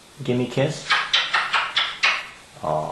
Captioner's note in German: smooch, smooch, smooch